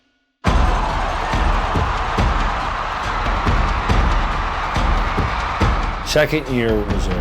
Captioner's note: marching band drum music; crowd cheering